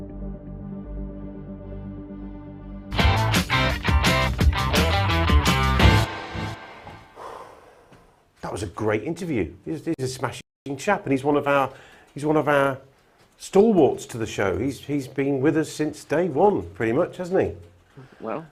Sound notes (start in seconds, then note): 3.0 upbeat music; 7.1 sighs